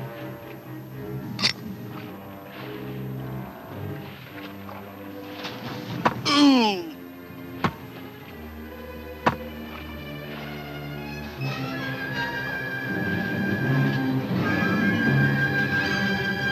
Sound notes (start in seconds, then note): 1.1 safe clicks; 6.2 grunts in pain